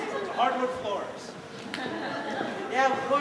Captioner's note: soft laughter